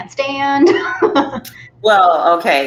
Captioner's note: laughs